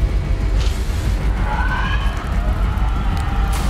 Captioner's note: demonic Shrieking